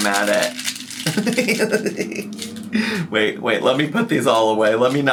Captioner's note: pencils clattering; laughs